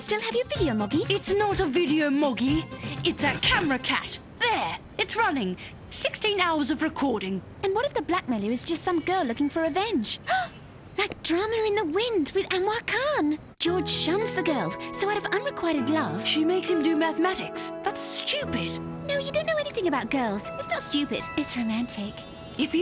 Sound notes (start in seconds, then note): 10.1 gasps